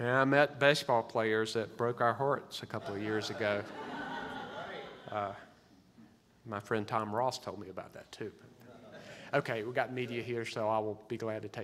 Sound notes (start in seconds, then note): 2.8 audience laughs